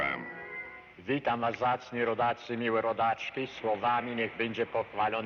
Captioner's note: speaking in Polish